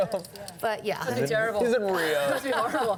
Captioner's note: laughs